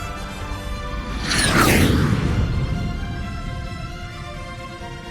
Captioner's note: jet roars across screen